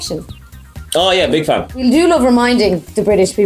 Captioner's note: sarcastically